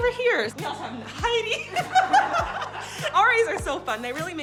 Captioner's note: laughs